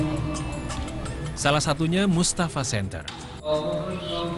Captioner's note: non-english speech